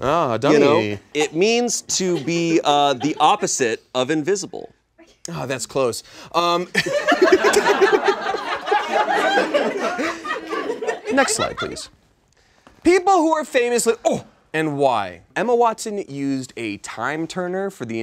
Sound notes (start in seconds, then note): 6.8 all laugh